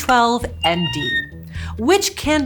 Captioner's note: megaphone squeaks